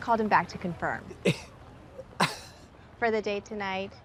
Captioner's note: Katya laughs